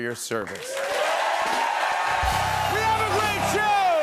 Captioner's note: cheers and applause